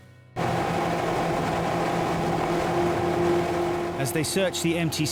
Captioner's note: boat motor roaring